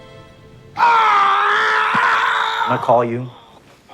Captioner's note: screaming